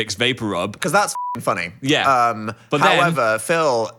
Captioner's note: beep